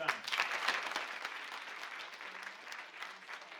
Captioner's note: applause